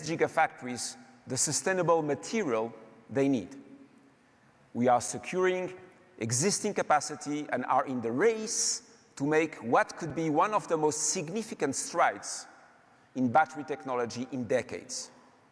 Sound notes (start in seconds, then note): none